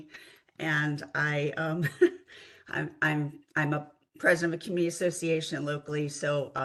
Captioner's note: laugh